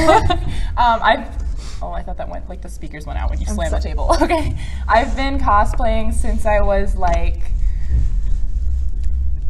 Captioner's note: hesitates